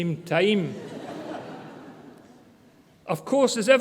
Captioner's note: audience laughter